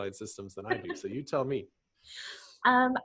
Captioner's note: laughs